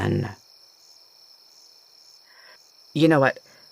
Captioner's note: more stammering